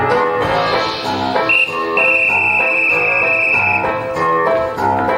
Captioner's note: whimsical 1920's music; whistle blows; whimsical 1920's music